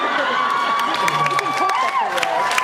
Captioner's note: cheers